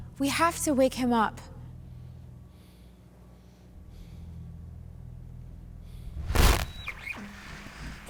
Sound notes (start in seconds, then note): 6.1 static